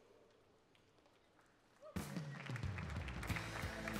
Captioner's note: applause